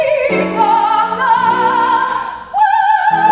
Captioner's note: vocalizes